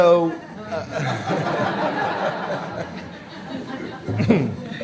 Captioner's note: laughter